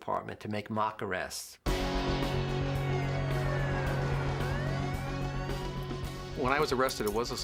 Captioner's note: police Siren